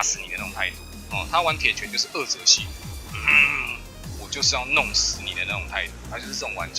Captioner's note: hnngg